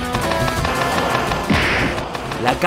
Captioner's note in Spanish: golpe